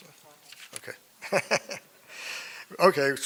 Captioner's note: laughs